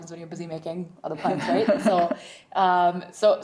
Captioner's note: laughing drowning out speaker